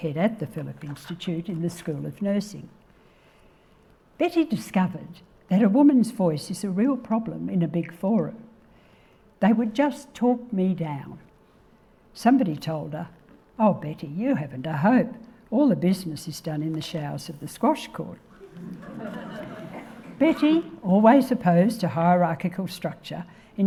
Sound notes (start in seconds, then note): 18.4 audience laughing